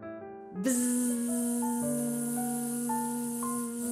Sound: buzzing

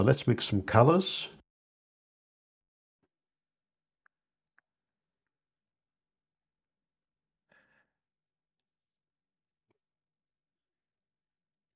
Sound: silence

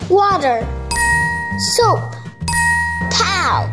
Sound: ding sound effect

